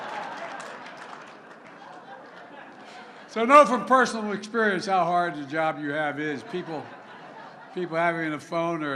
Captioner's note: laughter